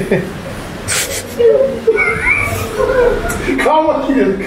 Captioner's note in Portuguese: risadas